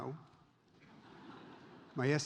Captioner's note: audience laughs